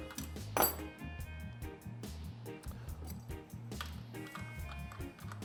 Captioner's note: tool clangs on table